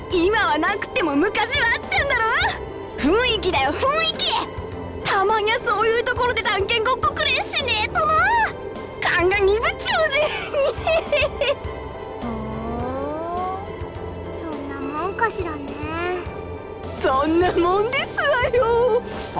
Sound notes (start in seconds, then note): 10.4 greedy snickering